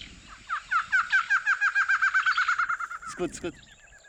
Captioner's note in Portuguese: ave cantando